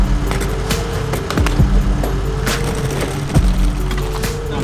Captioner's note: table clanking on pavement; truck engine revving